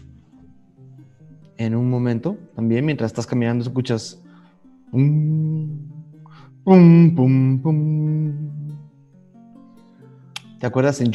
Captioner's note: hums